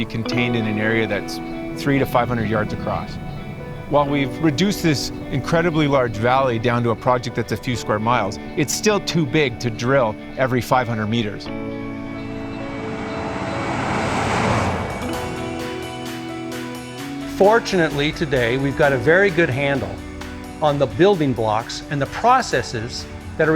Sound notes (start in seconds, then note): 12.9 truck rumbling; 15.3 up beat music